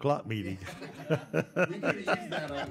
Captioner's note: laughing